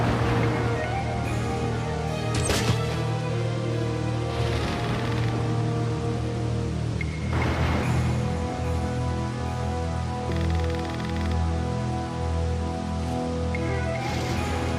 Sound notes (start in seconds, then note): 0.0 lightning crashing; 0.1 suspenseful music; 4.4 rain pattering; 4.7 thunder rumbling; 8.9 suspenseful music; 10.2 rain pattering